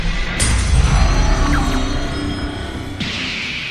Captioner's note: nova roars